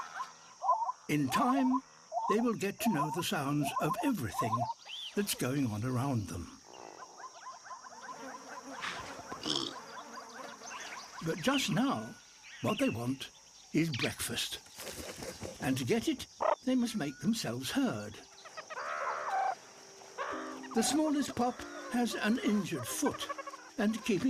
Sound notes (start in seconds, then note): 7.9 flies buzzing; 9.4 snorts; 18.3 squeaks